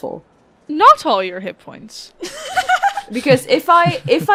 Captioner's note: laughter